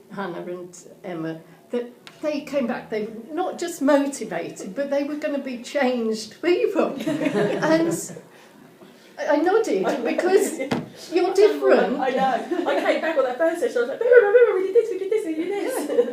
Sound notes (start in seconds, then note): 6.9 audience laughing